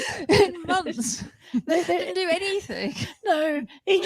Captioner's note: laughter